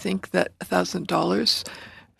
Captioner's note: speaking French